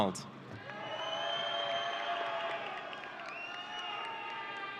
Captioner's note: audience cheering